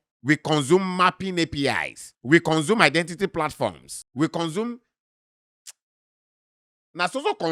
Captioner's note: smacks lips